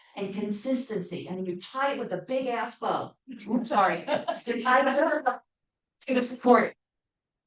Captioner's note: laughs